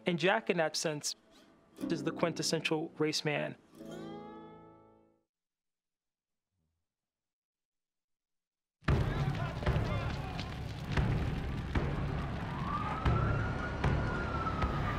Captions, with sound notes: And Jack, in that sense, is the quintessential race man. (explosions popping) (sirens wailing)